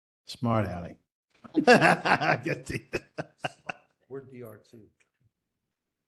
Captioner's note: laugh